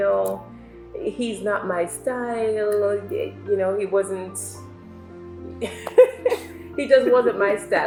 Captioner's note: laughs